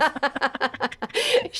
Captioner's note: laughing